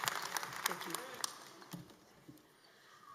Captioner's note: applause